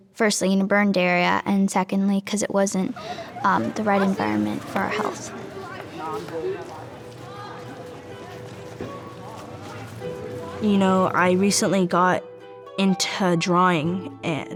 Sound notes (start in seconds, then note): 6.1 indistinct chatter